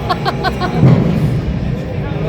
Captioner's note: laughing